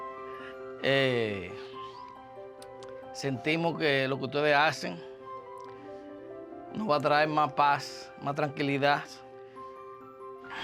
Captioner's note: speaking spanish